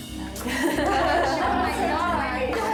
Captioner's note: daters giggling